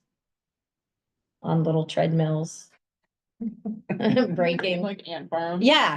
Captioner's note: laughs